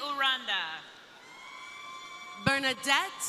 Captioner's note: crowd cheering